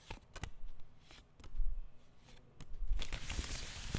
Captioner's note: cards shuffling